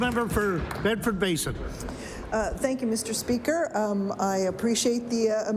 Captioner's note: applause